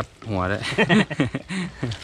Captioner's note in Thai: หัวเราะ